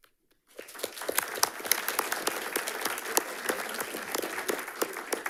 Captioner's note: audience applauding